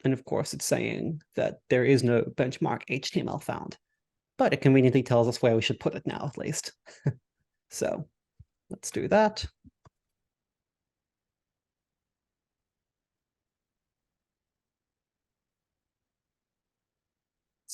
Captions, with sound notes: and of course it's saying that there is no benchmark_html found, but it conveniently tells us where we should put it now at least. (chuckles) So let's do that.